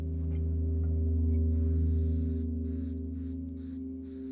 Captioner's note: paint sprays